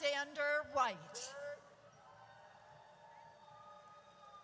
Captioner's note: audience cheers